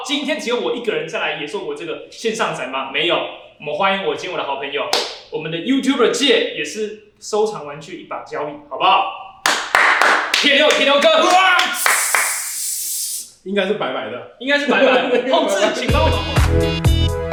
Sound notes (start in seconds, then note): 11.8 shooting web sound